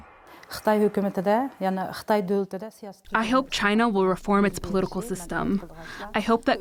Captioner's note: through translator